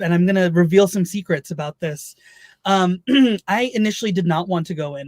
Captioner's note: clears throat